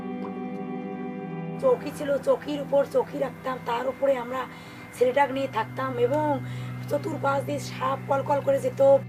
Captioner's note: foreign language